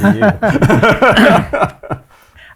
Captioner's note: laughing